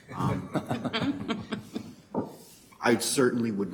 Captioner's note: Board members laugh